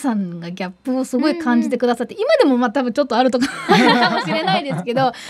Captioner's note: Laugh